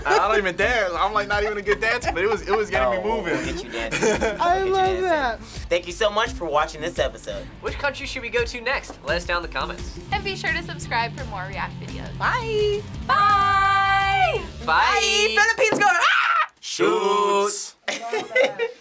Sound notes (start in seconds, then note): 0.0 React laughs; 16.0 screams